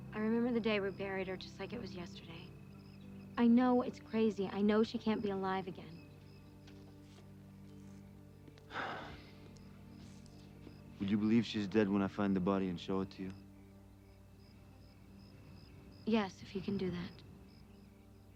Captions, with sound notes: I remember the day we buried her just like it was yesterday. I know it's crazy. I know she can't be alive again. (Dominic sighs) - Would you believe she's dead when I find the body and show it to you? (insects chittering) - Yes, if you can do that.